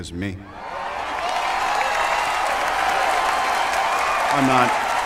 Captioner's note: audience cheering